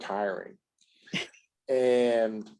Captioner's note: laughs